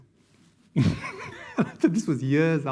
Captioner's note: laughing